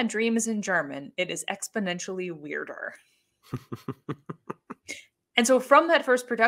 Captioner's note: laughs